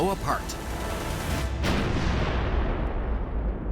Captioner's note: explosion